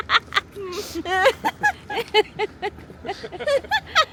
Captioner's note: laughter